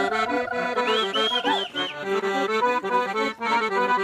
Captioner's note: people whistle and shout